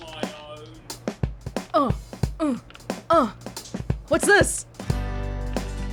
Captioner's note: grunting/beating to the music